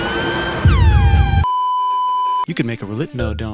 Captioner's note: beeeeeeeeeeeep